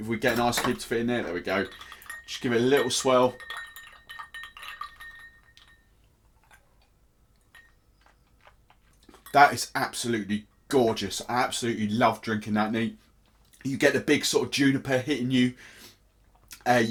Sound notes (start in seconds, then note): 3.4 ice clanging in glass; 6.0 sips and crunching ice